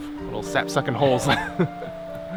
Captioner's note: both laugh